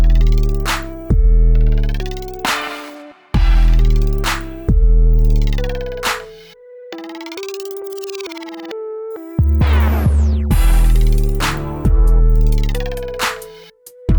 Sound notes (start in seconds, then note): none